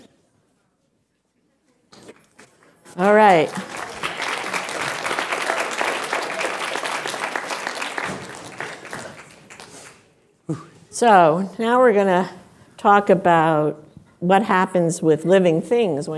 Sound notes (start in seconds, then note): 2.5 applause